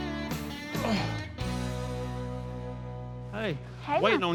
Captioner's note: grunts